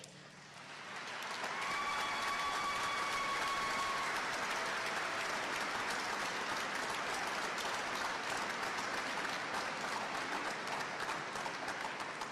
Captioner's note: applause